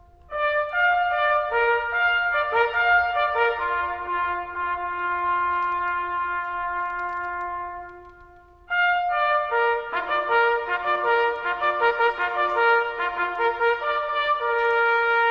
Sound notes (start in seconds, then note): none